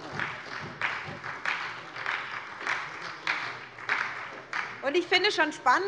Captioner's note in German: Beifall bei der SPD